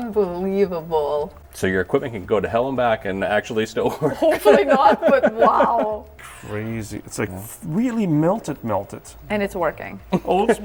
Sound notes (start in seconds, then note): 4.0 laughs